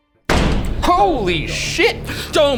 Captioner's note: banging on window